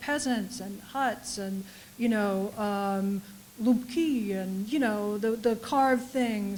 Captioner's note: russian